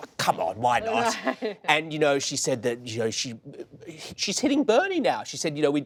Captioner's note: laughter